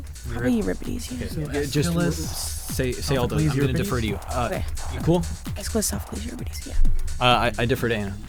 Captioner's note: whispering